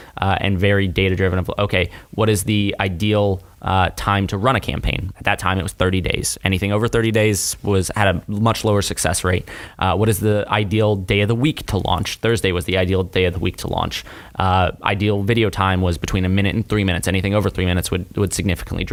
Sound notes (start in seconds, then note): none